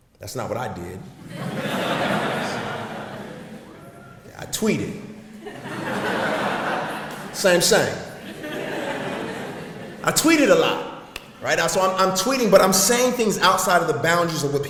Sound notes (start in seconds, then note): 1.1 audience laughs